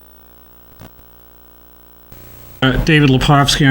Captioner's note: static buzzes